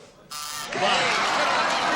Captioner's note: buzzer